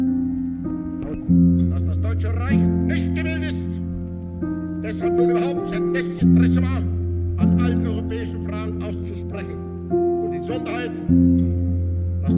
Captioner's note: speaking German